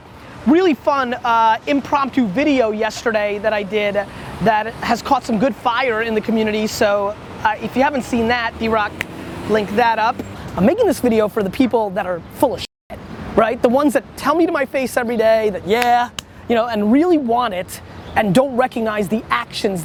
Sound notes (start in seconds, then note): 9.0 snap; 16.0 smack, smack